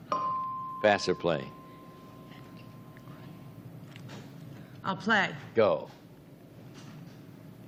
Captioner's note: bell dings